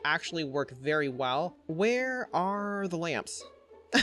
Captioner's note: chuckles